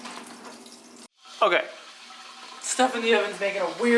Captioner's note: much louder sizzling noise